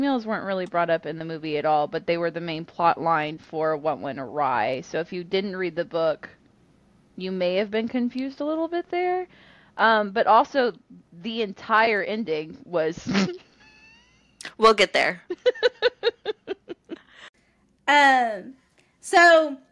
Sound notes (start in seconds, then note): 15.2 laughter